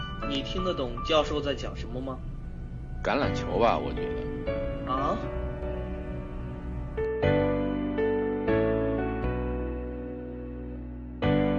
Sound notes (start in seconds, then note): 0.6 in Mandarin